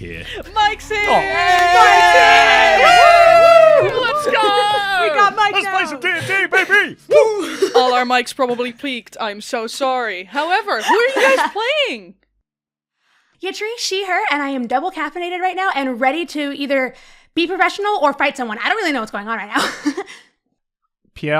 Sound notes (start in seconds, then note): 4.2 everyone cheers; 10.8 laughter; 20.8 laughs